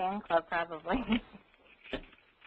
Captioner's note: laughs